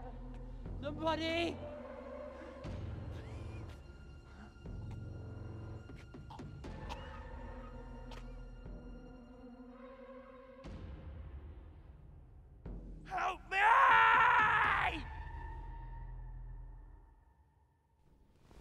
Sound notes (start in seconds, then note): 2.3 ominous music; 7.3 man coughs